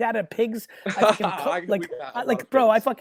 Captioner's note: laughs